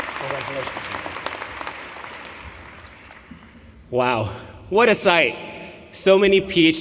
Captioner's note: applause